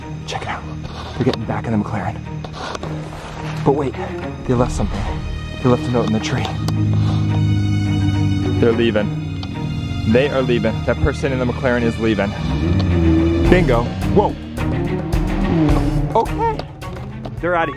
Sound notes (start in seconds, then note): 7.0 car engine revs; 15.0 car races off; 17.6 digital beeps